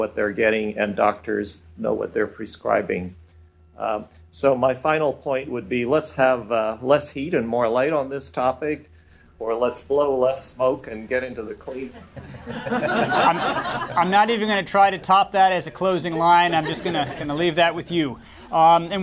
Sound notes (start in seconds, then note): 11.8 laughter